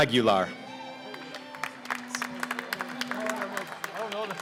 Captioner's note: applause